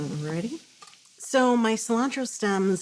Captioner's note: sizzling